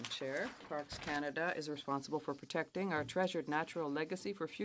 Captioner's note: speaking French